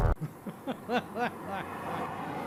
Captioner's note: laughter